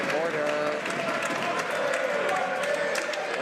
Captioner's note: some Applause